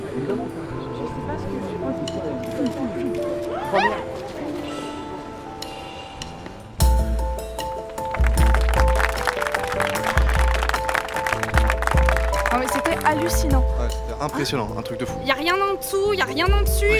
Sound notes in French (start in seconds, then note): 3.5 petit cri d'effroi; 8.0 applaudissements